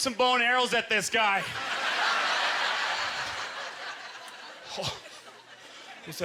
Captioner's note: audience laughter